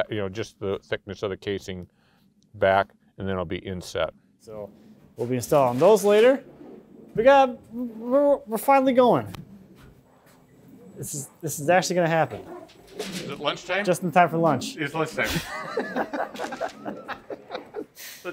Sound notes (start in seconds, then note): 12.6 children murmuring; 15.2 both laughing